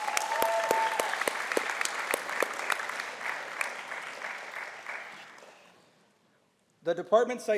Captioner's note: applause